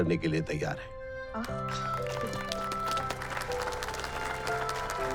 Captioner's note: applauses